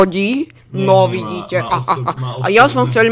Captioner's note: laughter